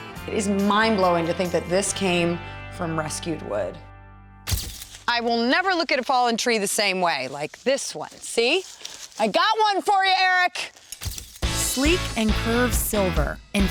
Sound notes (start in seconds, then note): none